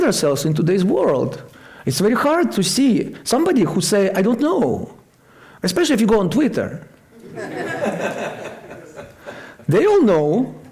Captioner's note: laughter